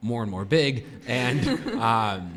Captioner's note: laughter